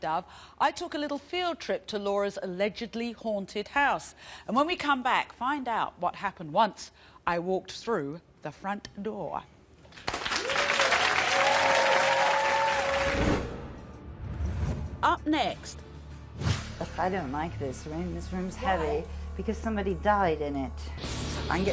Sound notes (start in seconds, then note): 10.3 audience cheering; 13.4 dramatic soft music